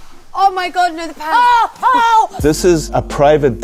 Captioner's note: Cara screams